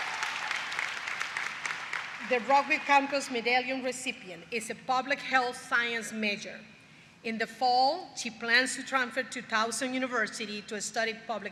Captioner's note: applause